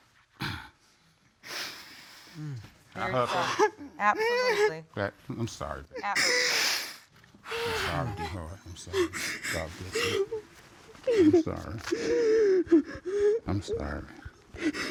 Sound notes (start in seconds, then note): 3.0 sobbing